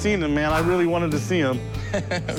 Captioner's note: laughs